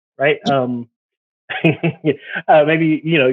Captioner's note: laughs